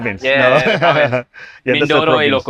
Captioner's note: laughs